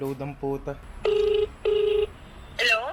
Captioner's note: phone ringing